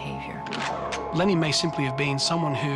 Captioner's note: gun cocks